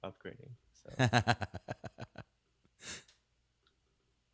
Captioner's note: laughs